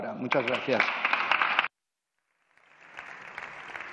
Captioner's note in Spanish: Aplausos